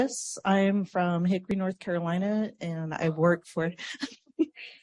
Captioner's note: laughs